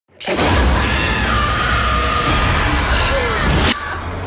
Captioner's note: electrical buzzing; woman yelling